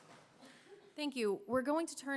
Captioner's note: coughing